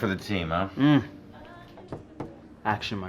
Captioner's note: moans